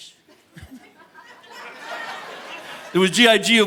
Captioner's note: audience laughing